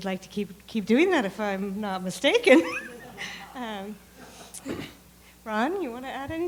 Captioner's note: laughs